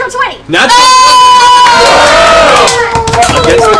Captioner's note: cheering